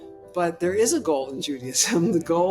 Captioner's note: chuckles